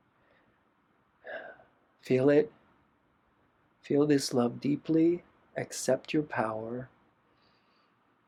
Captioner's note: sigh